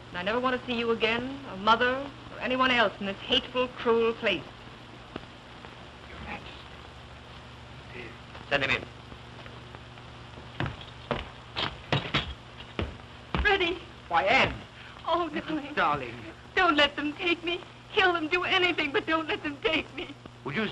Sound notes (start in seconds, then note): 4.7 whispering